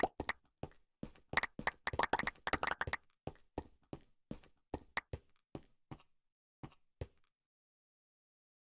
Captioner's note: gulp